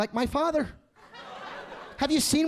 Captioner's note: audience laughing